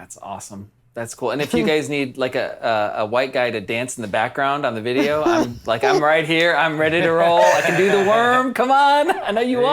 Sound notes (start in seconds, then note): 5.0 laugh